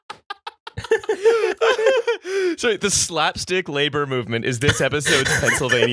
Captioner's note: laughter